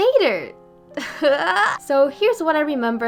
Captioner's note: cry of distress